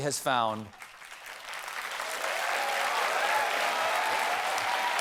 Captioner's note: applause